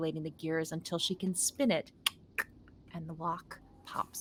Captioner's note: clicks tongue